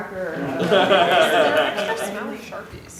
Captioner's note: laughter